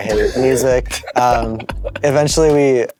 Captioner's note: bandmates laugh